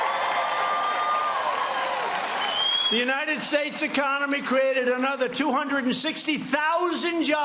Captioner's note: cheers and applause